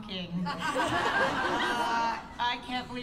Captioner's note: laughter